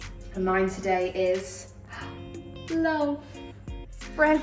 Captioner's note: gasps